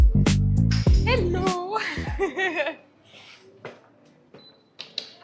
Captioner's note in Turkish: kahkaha